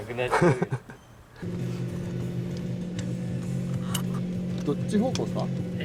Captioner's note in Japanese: エンジン音